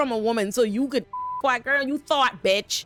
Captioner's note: beep